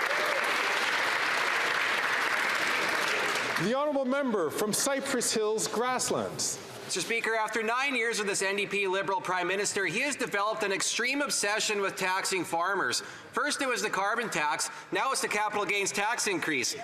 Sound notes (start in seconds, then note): 4.0 some Applause